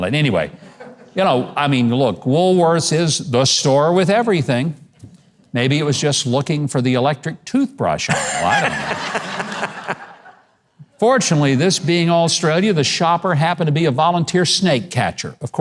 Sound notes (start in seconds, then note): 8.1 audience laughing